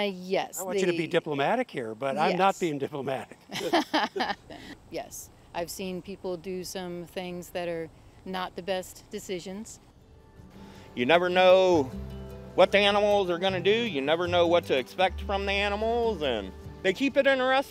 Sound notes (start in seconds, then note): 3.0 laughing